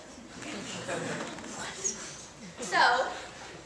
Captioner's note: audience laughing